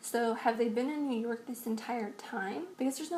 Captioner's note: none